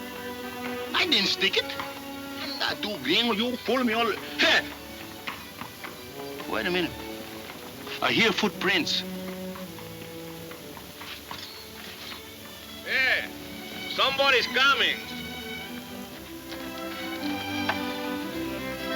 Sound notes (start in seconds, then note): 2.2 mumbling in Spanish